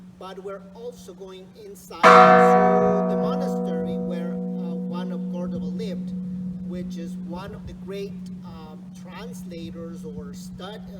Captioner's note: church bell rings